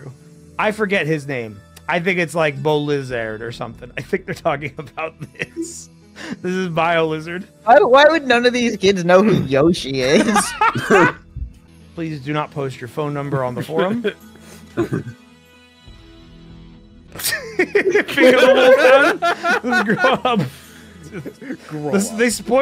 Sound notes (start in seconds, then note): 10.1 laughs; 17.2 laughter